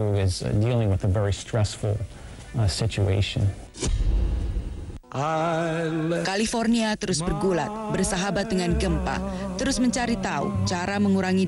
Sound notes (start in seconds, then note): 7.0 non-english speech